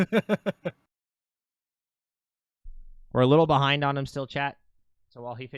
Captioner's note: laughing